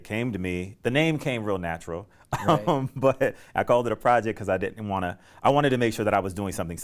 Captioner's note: laughter